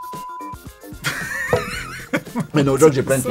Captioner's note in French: rires